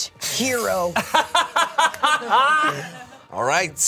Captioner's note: laughs